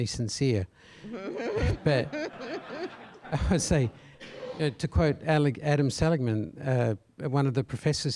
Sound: laugh

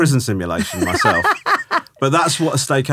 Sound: laughing

